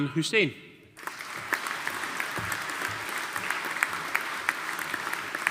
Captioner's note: audience applauding